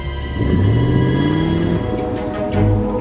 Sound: suspenseful orchestra music; van revs

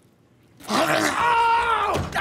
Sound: groans

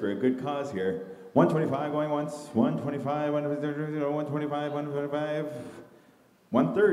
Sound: mimicking an auctioneer

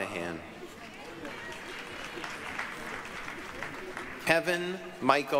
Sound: applause, cheering

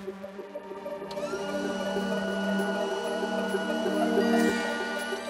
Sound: motor whirring

